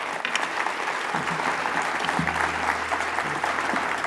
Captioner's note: applause